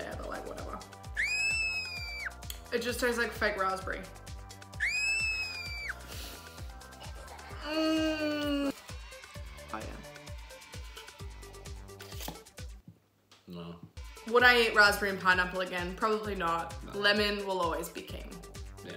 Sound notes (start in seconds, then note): 1.1 screaming; 4.7 screaming; 7.3 groaning